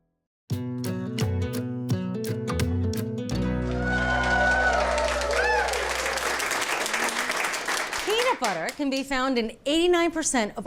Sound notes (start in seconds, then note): 0.5 bright acoustic music; 3.4 attendees whoop and clap